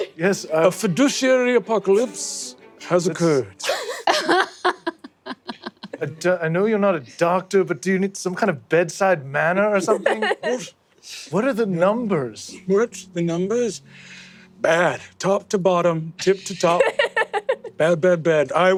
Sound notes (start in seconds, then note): 3.6 laughing